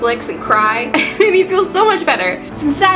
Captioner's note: laugh